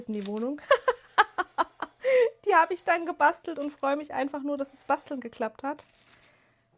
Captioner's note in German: gelächter